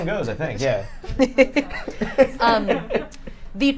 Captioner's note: group laughs